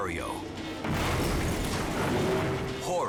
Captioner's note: barge crashing; bridge shattering